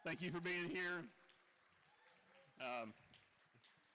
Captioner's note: cheering